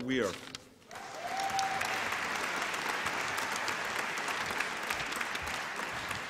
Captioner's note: applause and cheering